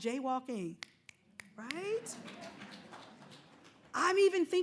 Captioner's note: snapping